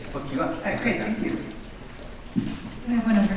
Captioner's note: voiceover